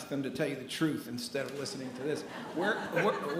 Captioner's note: attendees laughing